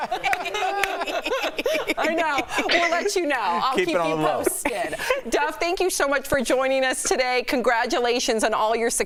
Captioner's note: laughter